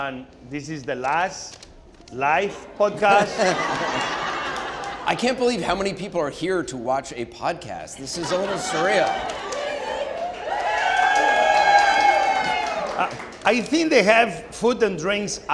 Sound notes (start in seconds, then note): 2.8 audience and Anderson laughing; 8.1 audience cheering